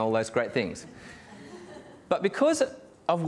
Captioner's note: audience laughing